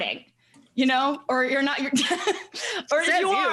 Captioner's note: chuckles